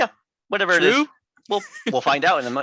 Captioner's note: laughs